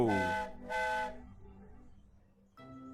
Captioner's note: freddie whistles